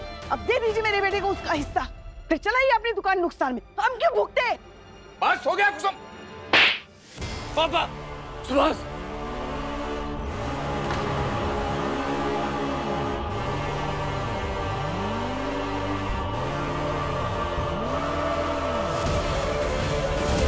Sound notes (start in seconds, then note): 6.4 slaps; 10.2 pensive music playing